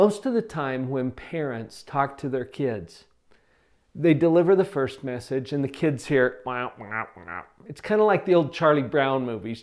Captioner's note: quack, quack, quack